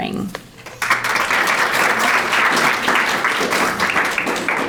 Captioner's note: audience applauding